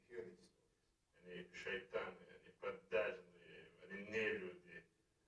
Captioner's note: speaking in russian